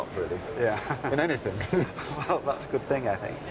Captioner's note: laughs